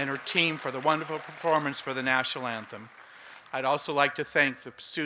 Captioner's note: applause